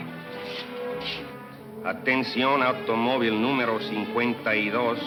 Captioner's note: speaking in Spanish